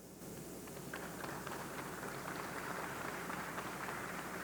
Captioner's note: audience clapping